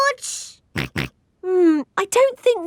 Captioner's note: snorts